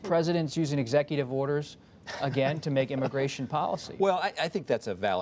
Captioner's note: laughter